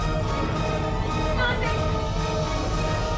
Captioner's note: shouting